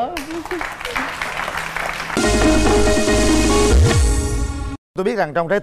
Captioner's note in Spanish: Aplaudir